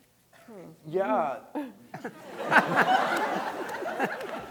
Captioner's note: audience laughing